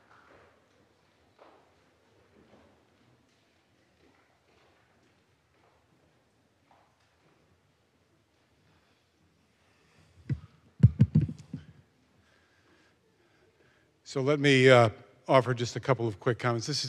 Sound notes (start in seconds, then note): none